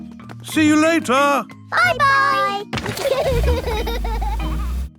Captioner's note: laughter